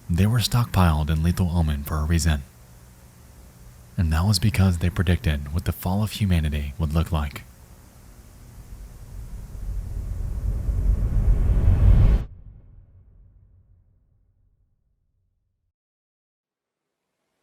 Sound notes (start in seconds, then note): 9.5 wind whooshing